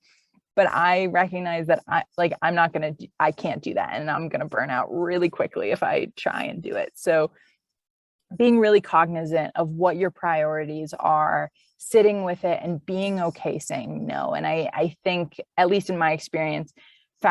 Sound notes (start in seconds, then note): none